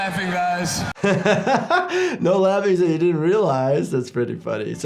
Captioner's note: laughing